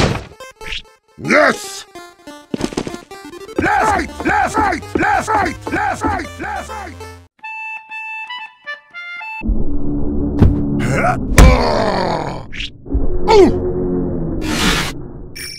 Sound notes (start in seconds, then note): 10.8 Peppino groans